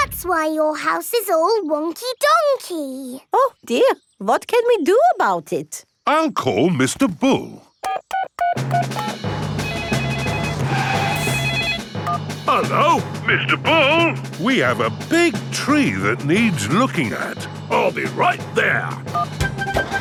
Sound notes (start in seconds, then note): 9.6 beeping; 9.6 phone ringing